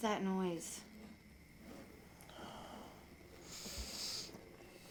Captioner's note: scraping